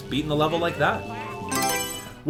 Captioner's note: Mario Selection Sound